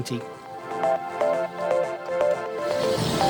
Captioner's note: and Steam Train noises